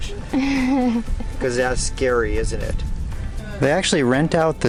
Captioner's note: laughter